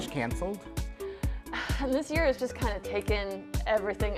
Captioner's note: sighs